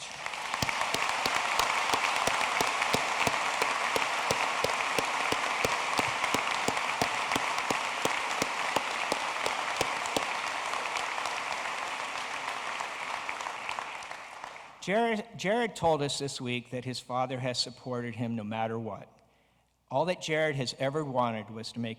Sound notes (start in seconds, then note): 4.6 applause